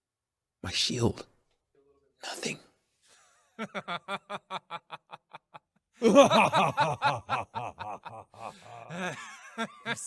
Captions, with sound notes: My shield. Nothing. [Spirit of Rage and Herobel Laugh]